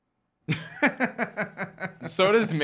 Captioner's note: laughing